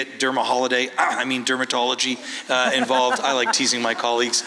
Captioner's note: laughs